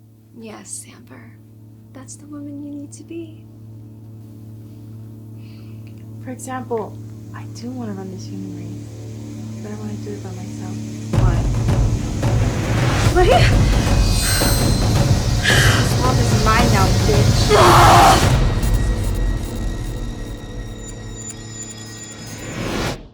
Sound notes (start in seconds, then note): 12.0 suspenseful music; 17.7 woman groaning; 19.9 suspenseful music